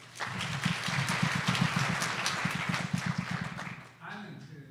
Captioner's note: audience applause